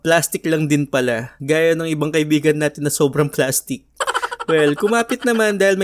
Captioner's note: laugh